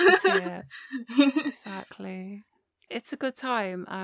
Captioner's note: laughter